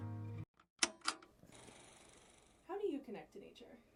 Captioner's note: tranquil music continues; tape whirring